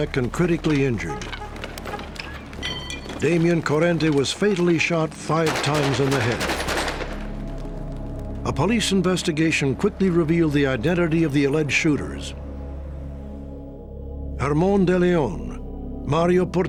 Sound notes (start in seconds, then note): 5.2 gunshots